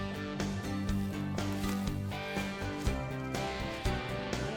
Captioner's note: upbeat music continues; foliage rustles